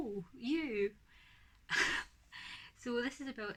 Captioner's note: laughs